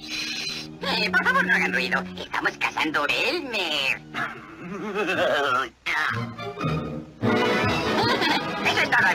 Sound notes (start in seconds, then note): 4.2 Daffy doing an "Elmer" Laugh